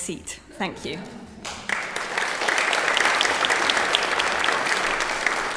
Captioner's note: applause